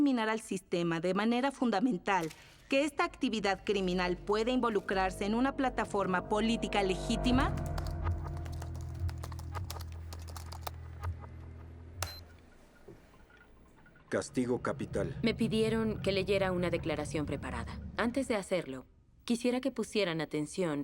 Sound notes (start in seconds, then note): 7.4 typing; 11.9 beeps